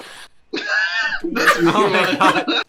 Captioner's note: wheezes